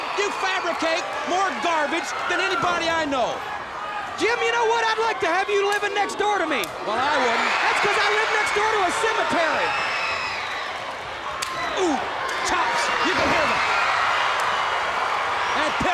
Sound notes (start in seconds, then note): 11.4 blows thudding; 12.4 body thudding